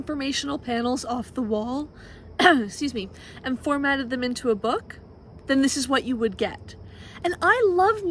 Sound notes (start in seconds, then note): 2.4 coughs - excuse me